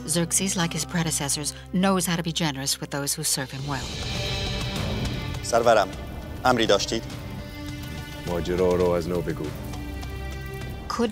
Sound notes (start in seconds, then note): 4.4 dramatic orchestral music; 5.5 Mardonius speaking in foreign language; 8.4 Xerxes speaking in foreign language